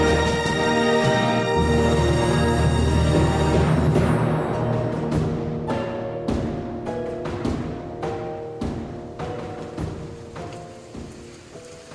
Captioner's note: stiff, cheerful, as if reading from a script